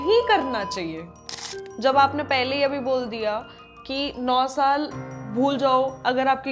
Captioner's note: nasal sound